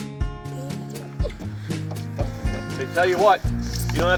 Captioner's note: giggling